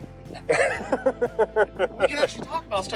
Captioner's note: laughing